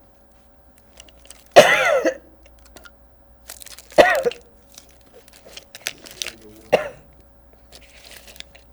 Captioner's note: coughing; pauses 17 seconds